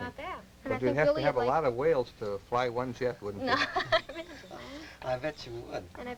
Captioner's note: laughter